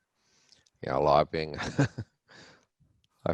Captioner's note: laughs